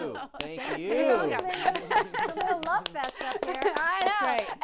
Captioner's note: laughter, applause